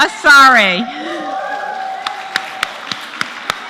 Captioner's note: applause